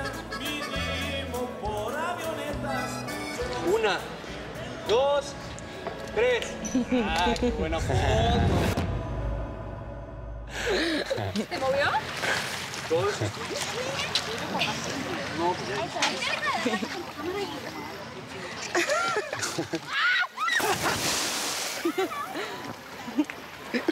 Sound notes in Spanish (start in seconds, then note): 18.7 Risas; 20.6 Estrépito en el agua